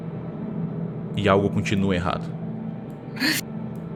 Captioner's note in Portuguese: Som de surpresa